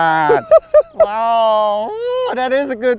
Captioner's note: laughter